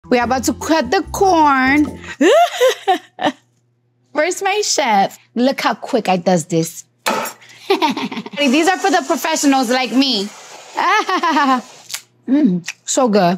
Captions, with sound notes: - We're about to cut the corn. [speaker sobbing] Where's my chef? Look how quick I does this. [knife thudding] [speaker laughing] These are for the professionals like me. [speaker laughing] So good.